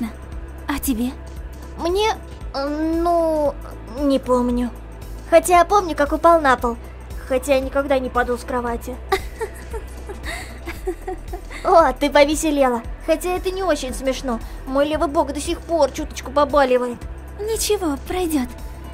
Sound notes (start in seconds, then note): 3.5 laughed